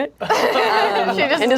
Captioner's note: group laughs